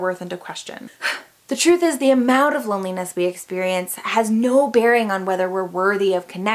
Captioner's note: huff